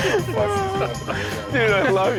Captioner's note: laughs